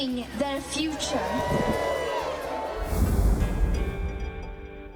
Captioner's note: audience cheers